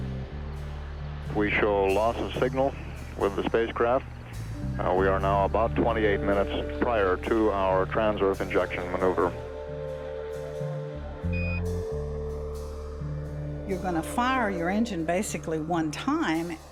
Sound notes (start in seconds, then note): 11.3 device beeps